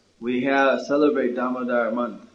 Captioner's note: none